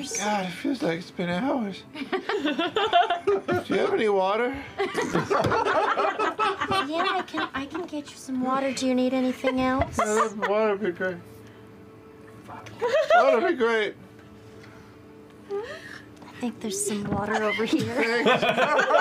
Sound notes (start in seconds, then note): 4.8 laugh; 12.8 the cast laugh; 17.3 the cast laughs